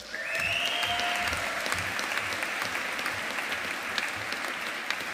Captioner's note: audience applauding